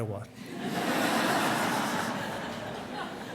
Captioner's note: laughter